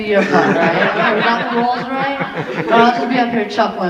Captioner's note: audience laughing